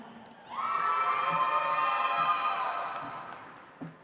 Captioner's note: audience applauds